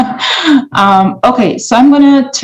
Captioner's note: laughs